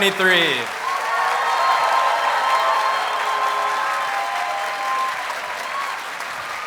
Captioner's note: audience applauds and cheers